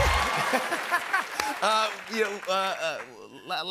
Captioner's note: laughter; laughs